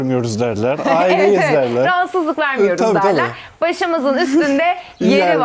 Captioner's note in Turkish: kahkaha